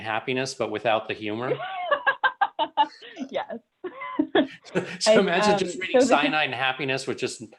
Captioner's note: laughter